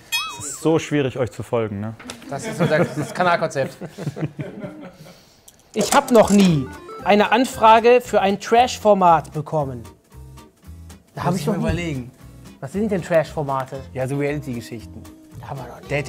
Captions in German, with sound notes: Es ist so schwierig, euch zu folgen. - Das ist das Kanalkonzept. (Lachen) (Lockere Musik) Da hab ich noch nie ... - Muss ich mal überlegen. Was sind denn Trash-Formate? - Ja, so Reality-Geschichten.